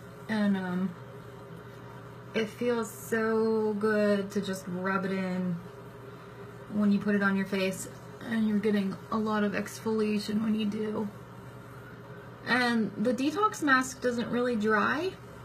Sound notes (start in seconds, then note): none